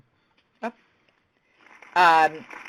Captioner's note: sound of applause